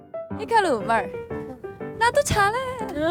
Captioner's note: Imitating Hikaru